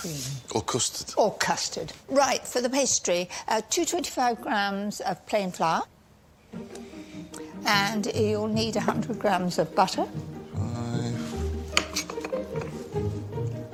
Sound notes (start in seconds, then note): none